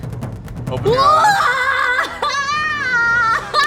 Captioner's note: yelling